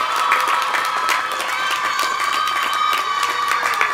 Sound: applause

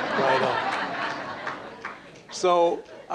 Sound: laughter

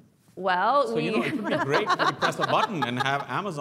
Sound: laugh

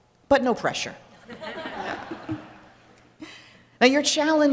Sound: laughter

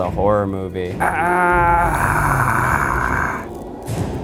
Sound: groaning

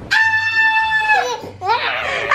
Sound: screams; roars; screaming

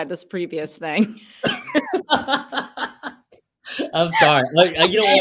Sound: laugh

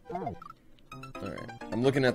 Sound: death audio

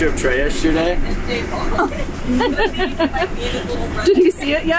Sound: laughing

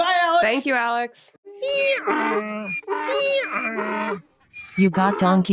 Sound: braying

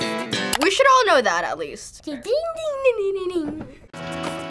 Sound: hums theme

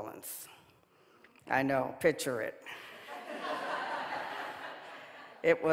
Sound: audience laughing

